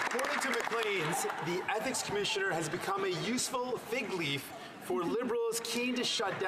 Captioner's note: some Applause